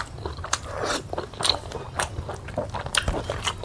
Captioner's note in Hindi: नाक से की जाने वाली आवाज़